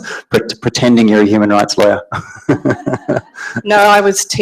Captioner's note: laughs